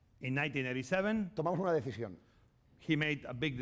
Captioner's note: speaking spanish